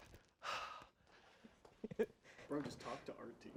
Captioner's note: sighs